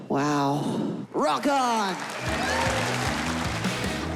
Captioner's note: applause